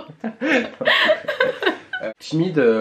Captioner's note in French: rires